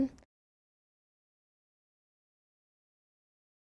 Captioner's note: silence